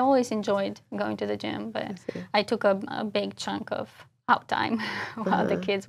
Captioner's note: laugh